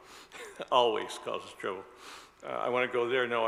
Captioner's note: laughs